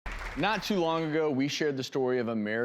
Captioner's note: audience applause